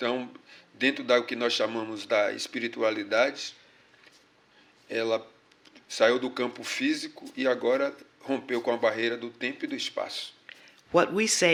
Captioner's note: speaking portuguese